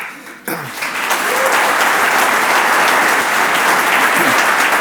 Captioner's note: audience applauds